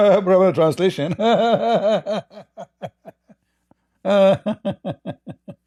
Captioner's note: Ketawa